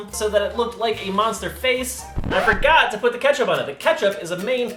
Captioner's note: record scratch